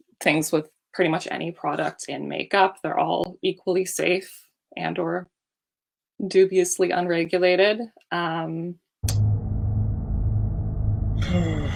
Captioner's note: ominous sigh